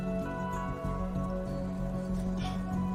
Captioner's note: scoffs